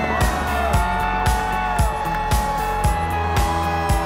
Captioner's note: music: upbeat; cheering